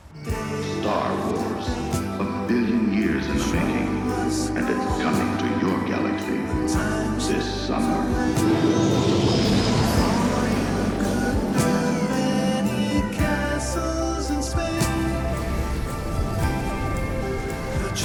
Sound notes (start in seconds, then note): 8.1 crash; 9.6 singing